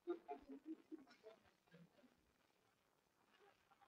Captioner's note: laughter